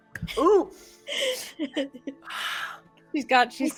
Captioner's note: sniffs